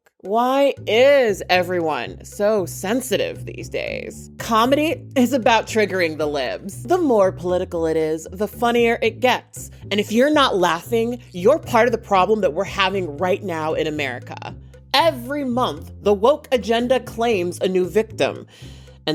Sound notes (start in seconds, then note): none